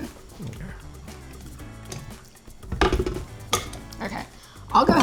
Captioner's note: bowl clacking